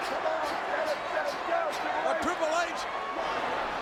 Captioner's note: crowd cheering